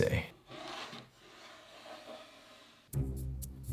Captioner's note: cutting board sliding across table